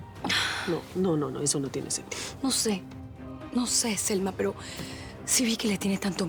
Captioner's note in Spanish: suspiros